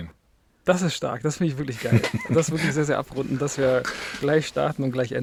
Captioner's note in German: gelächter